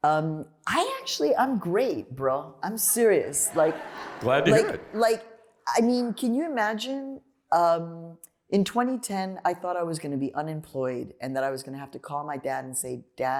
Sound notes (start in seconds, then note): 3.4 laughter